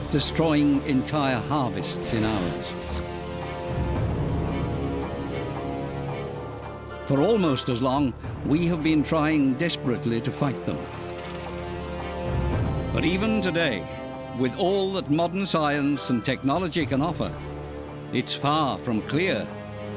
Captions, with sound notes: destroying entire harvests in hours. [electric zap] For almost as long, we have been trying desperately to fight them. [motor rumbling] But even today, with all that modern science and technology can offer, it's far from clear